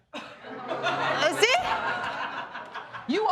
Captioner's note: audience laughing